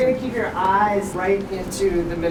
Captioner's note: none